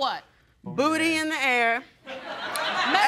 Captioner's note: audience laughs